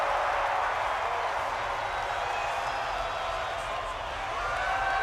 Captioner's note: loud cheering